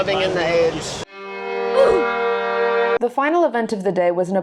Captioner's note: sad violin; Roblox oof